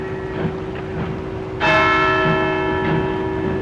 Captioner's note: clock strikes